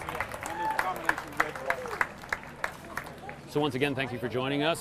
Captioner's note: audience applauding